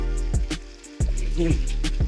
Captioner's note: splashing